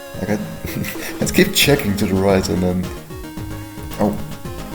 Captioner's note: chuckling